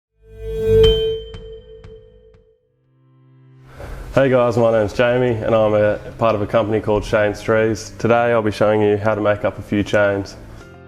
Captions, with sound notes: (bright chime) - Hey guys, my name's Jamie, and I'm a part of a company called Shane's Trees. Today, I'll be showing you how to make up a few chains.